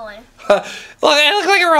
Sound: laughs

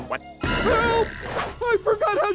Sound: muttering

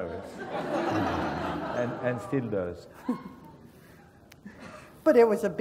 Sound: laugh

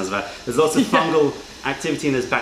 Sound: laughter

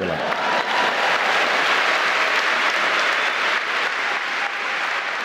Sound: applauding

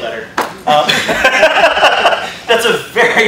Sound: laughter

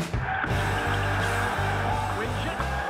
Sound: cheering

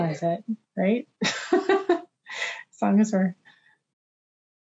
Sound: laughs

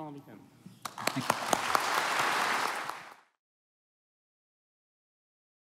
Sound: applause

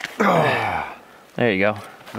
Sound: grunting

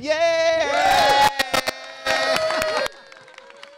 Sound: cheering

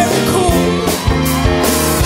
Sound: cheers

